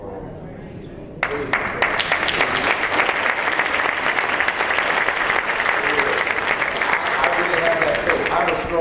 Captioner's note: applause